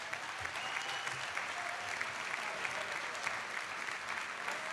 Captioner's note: audience clapping